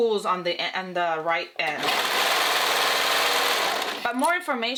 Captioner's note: sewing machine whirring